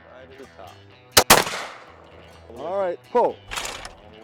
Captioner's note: gunshot